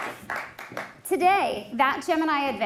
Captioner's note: applause